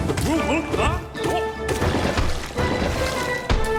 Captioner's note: character grunting